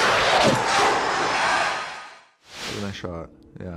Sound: crowd cheers

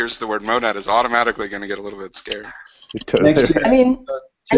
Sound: laughs

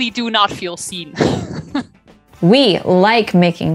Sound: laughing

